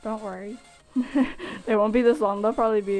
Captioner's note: laughs